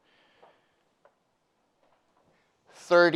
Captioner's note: footsteps tapping